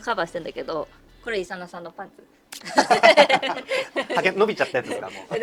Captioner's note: laughs